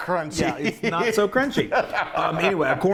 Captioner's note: laughs